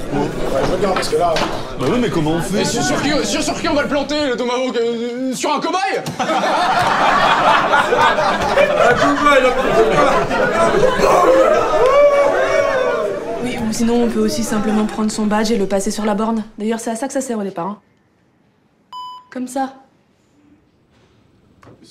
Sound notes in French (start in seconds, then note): 6.0 Rires